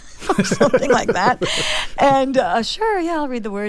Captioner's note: laughter